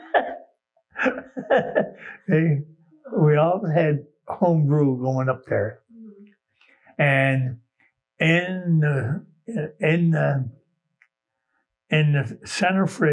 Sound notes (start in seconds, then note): 1.0 laughs